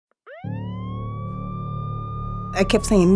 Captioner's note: sirens; voiceover